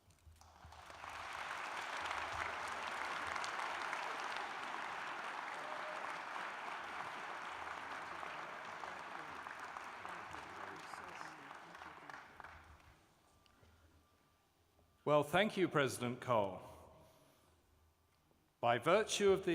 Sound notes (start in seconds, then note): 0.9 applause